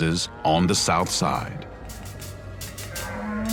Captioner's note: cows mooing